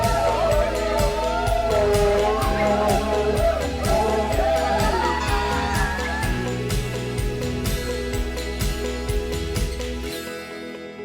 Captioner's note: cheers